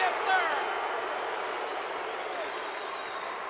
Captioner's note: crowd Cheering